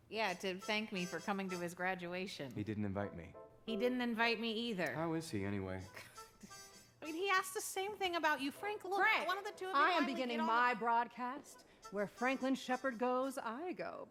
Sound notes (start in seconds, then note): 6.3 scoffs